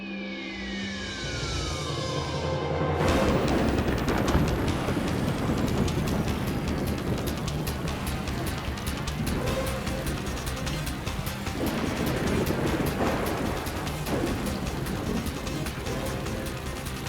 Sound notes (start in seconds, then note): 0.2 drum; 3.0 gunshot